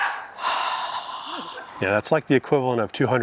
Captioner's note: sighing